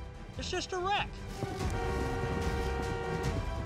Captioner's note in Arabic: أصوات أبواق السيارات